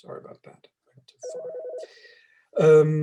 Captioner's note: background ringing